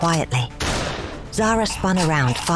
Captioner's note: snarling